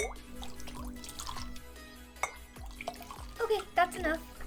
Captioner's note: liquid spatters